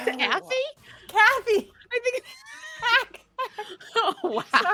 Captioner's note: laughing; laughing